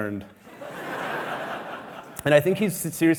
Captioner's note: audience laughing